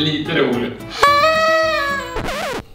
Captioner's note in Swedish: tut-ljud